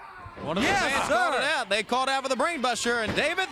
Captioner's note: crowd chatter